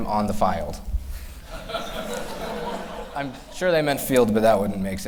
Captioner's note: laughter